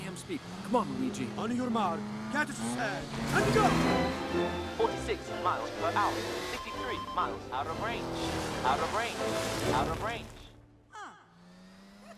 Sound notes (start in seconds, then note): 4.2 engines revving